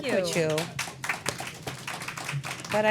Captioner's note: applause